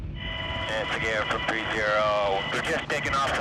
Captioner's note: man On Radio